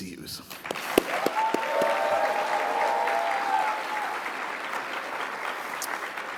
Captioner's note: audience clapping and cheering